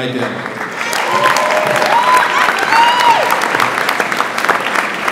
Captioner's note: audience applauds